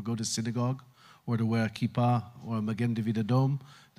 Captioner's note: Hebrew